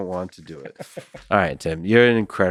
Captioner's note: Tim laughs